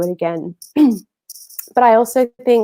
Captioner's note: clearing throat